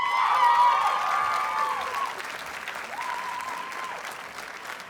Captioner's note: audience cheers and applauds